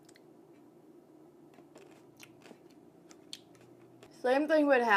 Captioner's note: chewing